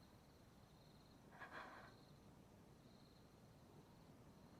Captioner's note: shaky breath